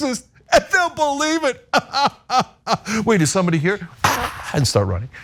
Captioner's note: laugh